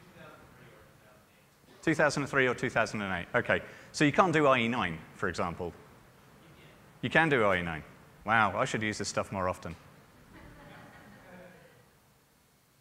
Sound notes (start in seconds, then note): 0.0 speaker is off microphone; 5.6 speaker is off microphone